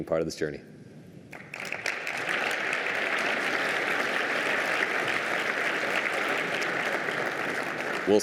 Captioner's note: applause